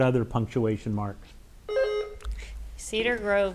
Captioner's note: bell rings